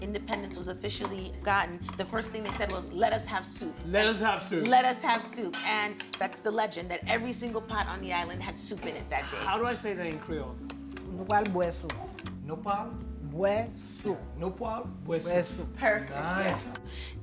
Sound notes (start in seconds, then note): 11.2 speaking Creole